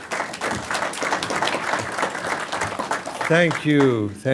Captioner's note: applause